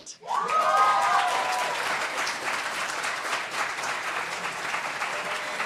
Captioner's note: applause